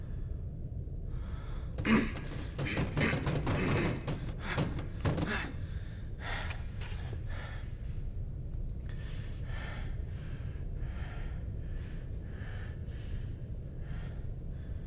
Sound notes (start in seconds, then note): 2.0 Keith grunting; 8.9 heavy breathing